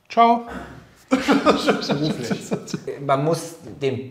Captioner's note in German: Gelächter